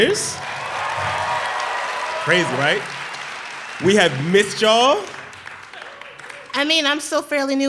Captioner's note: applause